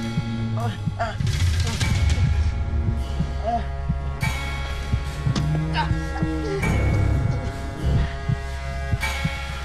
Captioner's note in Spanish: quejidos